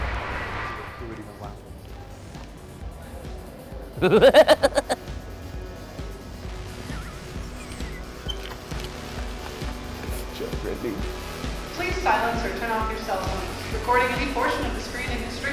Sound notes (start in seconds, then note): 4.0 laughs; 6.9 both laughing; 8.5 upbeat music